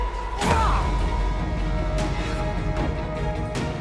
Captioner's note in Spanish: grita